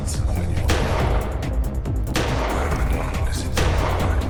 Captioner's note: several gunshots fire